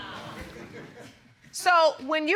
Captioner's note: laughter